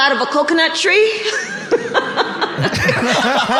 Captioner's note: laughing; all laughing